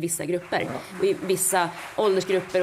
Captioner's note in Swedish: Applåder